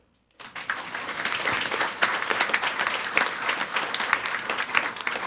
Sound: audience applauding

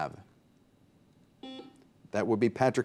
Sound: buzzer beeps

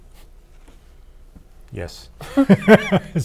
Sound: laughter

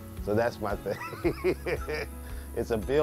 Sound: laughing

